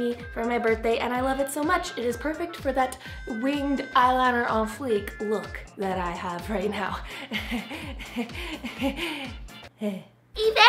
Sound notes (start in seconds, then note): 7.0 giggling